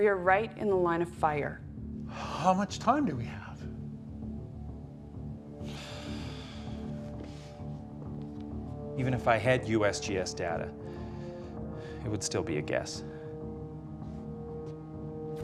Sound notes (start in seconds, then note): 5.6 sighs